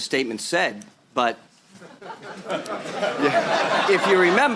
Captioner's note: laughter